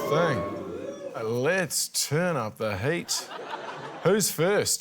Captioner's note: laughter